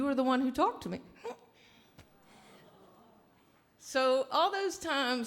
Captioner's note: chuckles